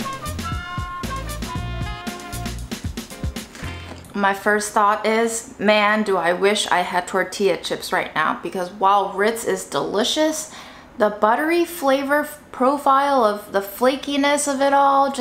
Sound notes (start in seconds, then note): 3.6 cracker crunching